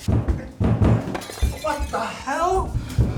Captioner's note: glass smash